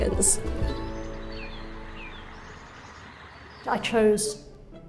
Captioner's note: birds chittering; water running gently